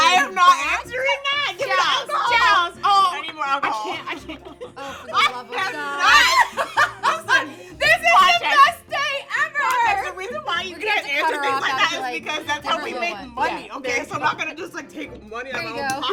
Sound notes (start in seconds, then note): 2.3 indistinct chattering and laughing